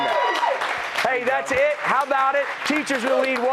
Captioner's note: cheers and applause